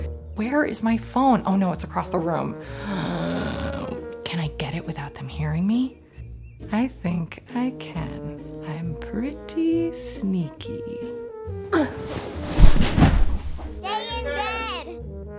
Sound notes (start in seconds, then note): 2.6 creaky inhaling; 11.8 bedclothes rustling, Mom falling; 13.8 whimsical horn music